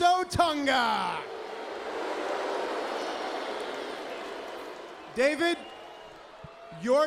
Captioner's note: crowd cheering